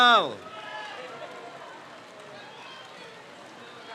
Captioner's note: crowd cheers